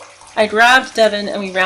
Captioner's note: sounds of footsteps and splashing water